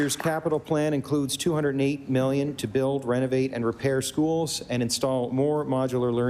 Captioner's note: applause